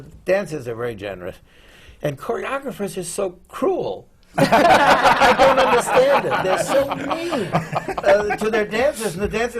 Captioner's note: laughter